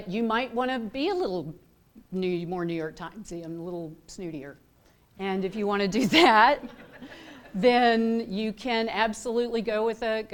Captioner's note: laughter